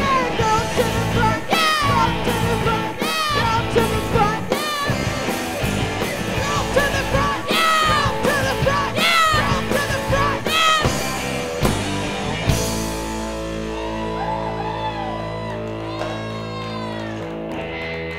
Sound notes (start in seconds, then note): 11.6 rock music; 12.5 crowd cheering